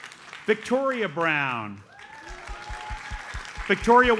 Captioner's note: audience applauds; audience applauds